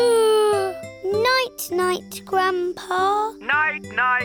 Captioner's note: yawns